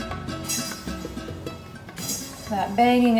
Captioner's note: metallic clanging